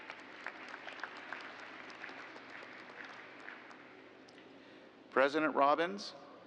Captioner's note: applause